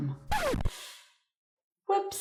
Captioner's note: record scratch